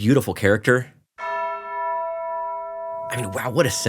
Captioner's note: bell ringing